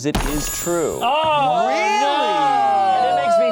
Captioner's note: yelling